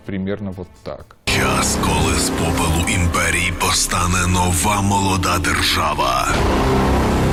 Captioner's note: Russian